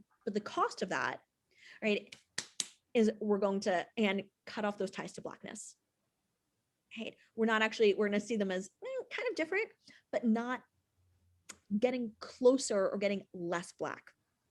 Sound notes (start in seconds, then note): 2.1 claps